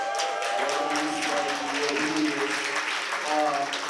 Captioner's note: applause